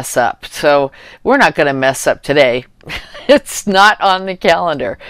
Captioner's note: laughter